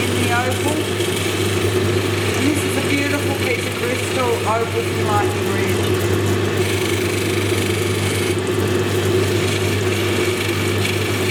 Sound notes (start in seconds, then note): 7.6 machine whirring